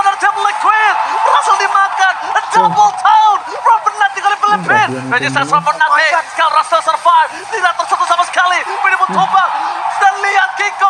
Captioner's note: laughs